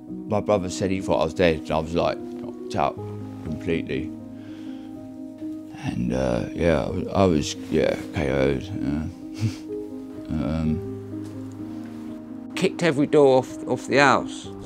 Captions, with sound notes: my brother said he thought I was dead, I was like knocked out completely. (SIGHS) and uh, yeah I was yeah KO’ ed......hmm.....um...... Kicked every door off the house